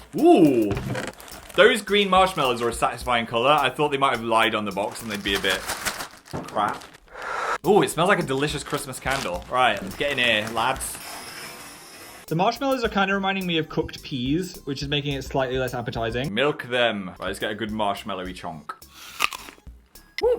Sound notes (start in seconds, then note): 4.7 cereal rattles in bag; 7.1 sniffs in bag sharply; 19.0 crunches on cereal